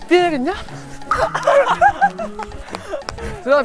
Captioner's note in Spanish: Riendo de dos tiros